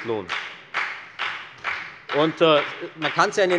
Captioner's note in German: Beifall bei der FDP